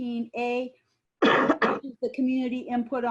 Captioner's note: coughing